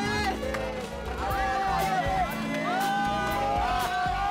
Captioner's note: indistinct chatter